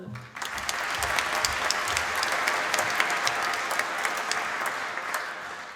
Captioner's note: applause